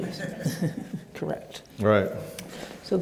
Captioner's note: laughs